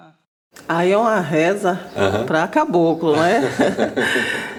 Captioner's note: laughs